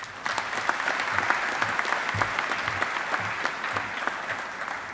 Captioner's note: audience applauding